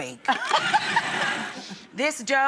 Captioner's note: laughter